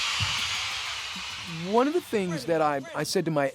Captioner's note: soundbite of archived recording